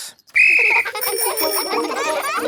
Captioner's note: blows whistle; giggling and ringing bells